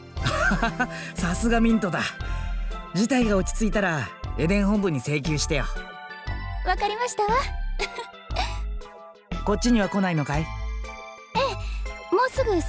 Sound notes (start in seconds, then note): 0.3 laugh; 7.8 giggle